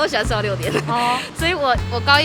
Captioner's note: inhale